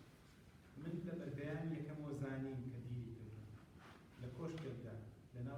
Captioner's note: non-english speech